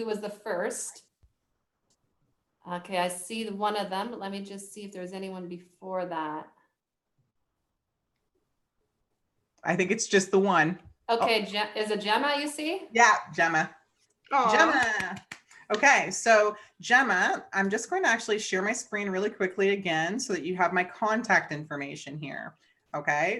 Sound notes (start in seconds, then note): 14.7 applauds